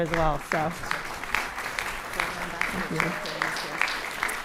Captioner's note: audience applauding